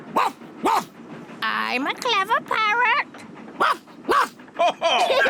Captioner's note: barks; barks; all laugh